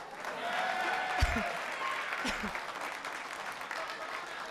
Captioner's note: audience clapping